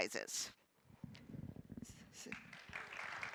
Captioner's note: applause